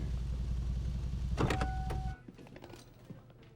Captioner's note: truck beeps